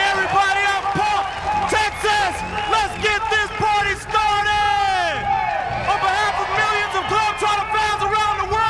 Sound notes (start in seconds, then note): 3.7 cheers and applause